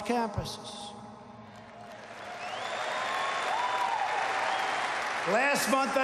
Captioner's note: applause